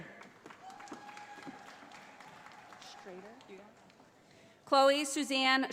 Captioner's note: audience applauding